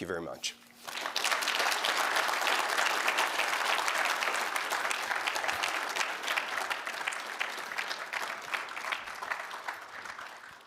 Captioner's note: applause